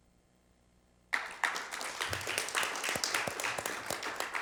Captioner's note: applauding